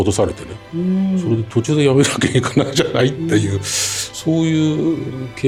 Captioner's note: laughs